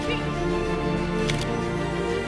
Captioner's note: camera shutter click